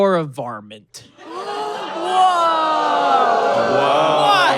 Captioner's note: gasps; audience groans and boos